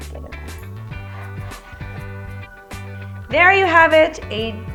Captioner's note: knife sliding back and forth